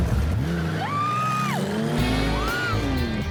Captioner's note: screams